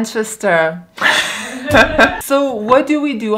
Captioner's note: laughing